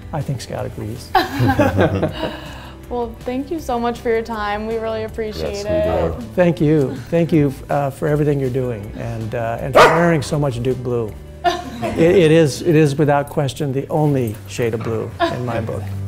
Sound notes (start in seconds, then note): 1.1 laughter; 9.7 dog barks; 11.4 laughs